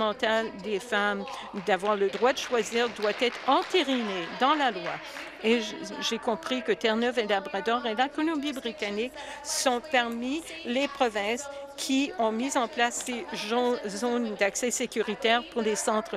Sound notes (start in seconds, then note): 7.3 applause